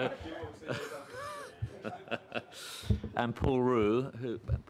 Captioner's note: laughter